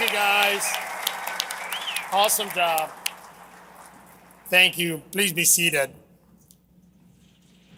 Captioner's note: cheers and applause